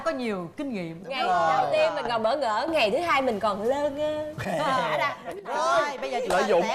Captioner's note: mockingly